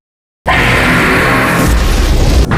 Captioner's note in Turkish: Çığlık